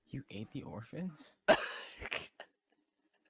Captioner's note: laughs